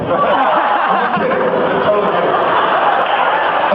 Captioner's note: laughs